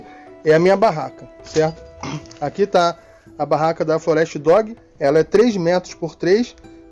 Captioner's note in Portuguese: limpando a garganta